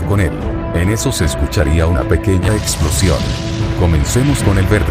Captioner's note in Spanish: En eso se escucharía una explosión mínima